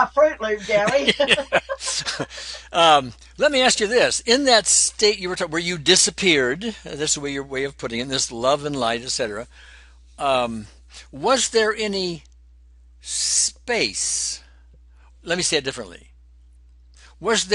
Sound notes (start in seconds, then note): 0.6 laughter